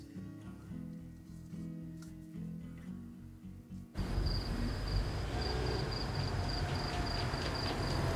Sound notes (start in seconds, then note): 4.0 crickets chirping